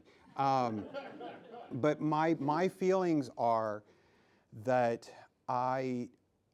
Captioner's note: laughing